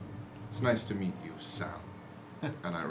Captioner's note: chuckles